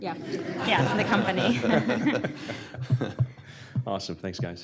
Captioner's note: laughter